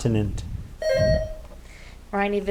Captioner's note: buzzer ringing